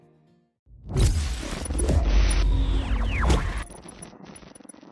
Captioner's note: blasting; crackling